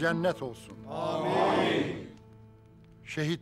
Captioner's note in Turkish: Hep bir ağızdan